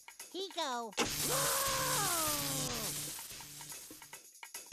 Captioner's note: Sylvester screaming; electric buzzing